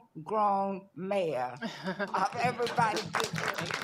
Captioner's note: applause